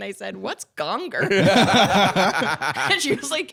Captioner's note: both laughing